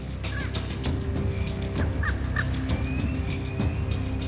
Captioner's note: birds calling